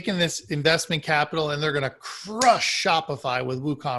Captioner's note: slams fist into hand